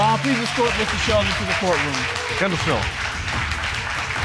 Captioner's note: audience applaud